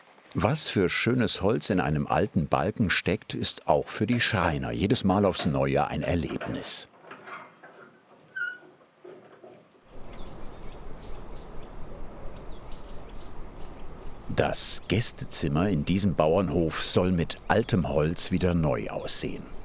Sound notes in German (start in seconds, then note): 8.3 Quietschen; 10.2 Vogelgezwitscher